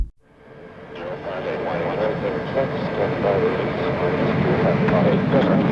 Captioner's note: engine roaring drowns out voice